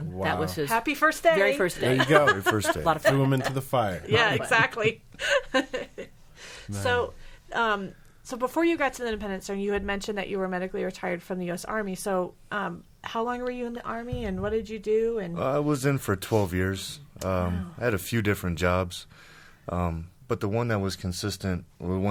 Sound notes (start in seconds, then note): 6.3 laughing